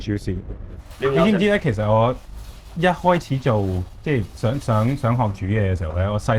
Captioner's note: speaking foreign language